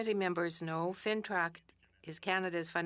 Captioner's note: speaking French